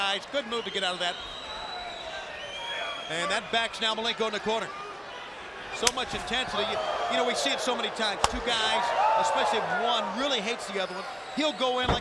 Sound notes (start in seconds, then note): 1.5 crowd cheering